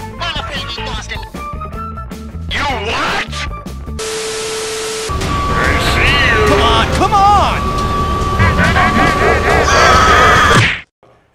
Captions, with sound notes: I'm afraid we've lost him! Y O U W H A T ? ! *static* *Plankton voice* I see you! Come on, come on! *demonic quacking* *scream* *thud*